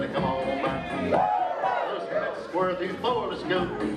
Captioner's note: crowd yelling